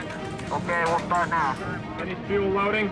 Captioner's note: male voice over radio